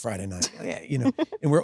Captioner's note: Sydney laughs